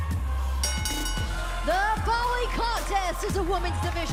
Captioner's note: bell ringing